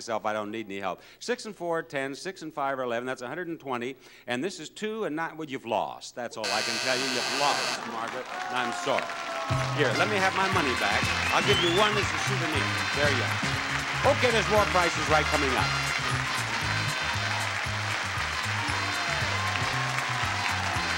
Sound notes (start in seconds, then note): 6.4 buzzer rings; 9.3 crowd claps; 15.9 crowd cheers